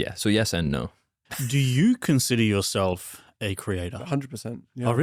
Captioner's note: laughs